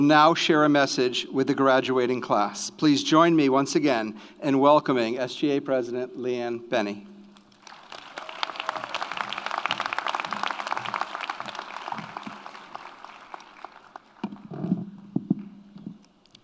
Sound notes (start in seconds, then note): 7.4 audience applauds; 7.6 audience cheers